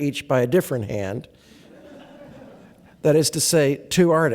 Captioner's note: laughter